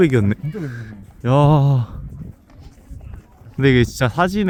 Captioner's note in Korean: 감탄